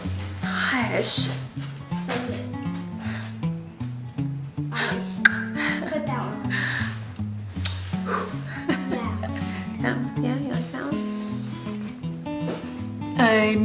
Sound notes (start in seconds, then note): 5.2 tongue clicking; 7.6 lips smacking